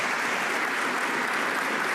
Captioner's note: some Applause